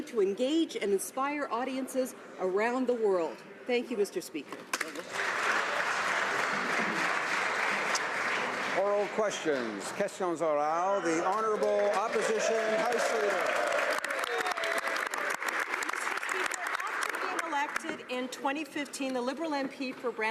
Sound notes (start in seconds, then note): 13.5 speaking French; 16.2 some Applause